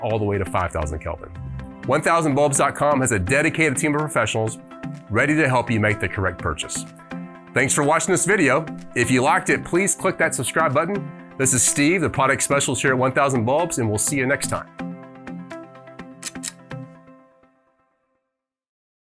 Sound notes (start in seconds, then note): 16.2 click